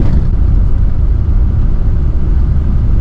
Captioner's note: road Sounds